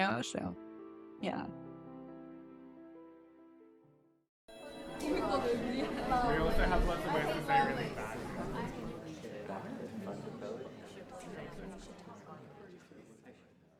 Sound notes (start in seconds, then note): 5.0 classroom chatter